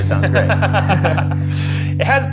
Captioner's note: laughing